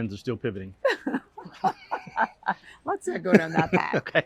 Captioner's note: laughter; laughter